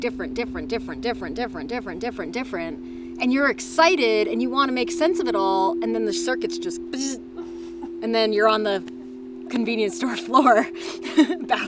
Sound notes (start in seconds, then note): 7.6 bzzzt; 10.7 laughs